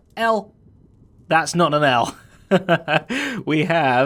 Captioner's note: chuckles